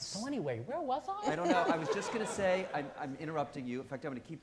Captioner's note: audience laughing